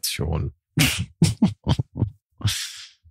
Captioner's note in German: Lachen